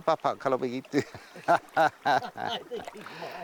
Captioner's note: speaking Austronesian language; both laugh